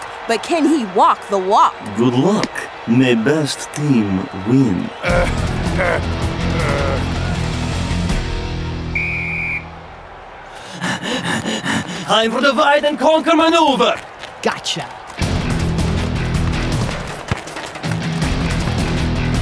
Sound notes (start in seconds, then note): 8.8 whistle blows; 10.5 heavy panting; 16.0 fast-paced rock music